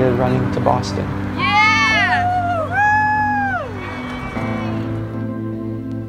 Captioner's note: runners cheering; slow emotional piano music